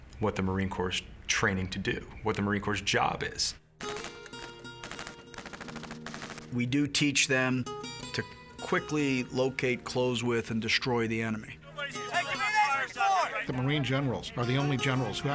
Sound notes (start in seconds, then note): 3.8 gunshots; 3.9 slow music